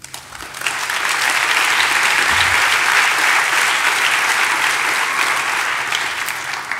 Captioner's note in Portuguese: Aplausos